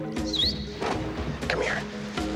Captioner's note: Evan whistles